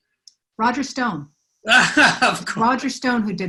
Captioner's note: laughs